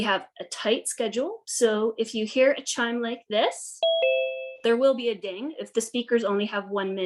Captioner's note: chime noise